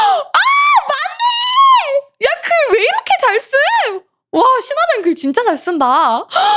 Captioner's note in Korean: 비명